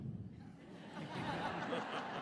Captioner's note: audience laughs